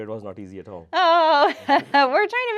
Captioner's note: laughing